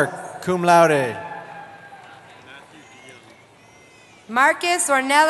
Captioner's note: cheering